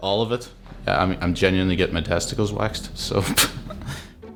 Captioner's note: laughs